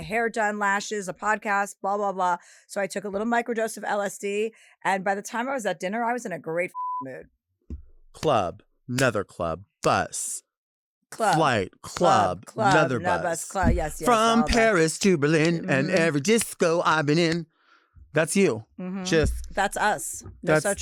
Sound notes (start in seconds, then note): 6.7 beep